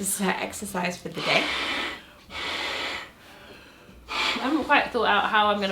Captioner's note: air hissing